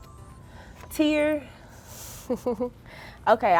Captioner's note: girls laughing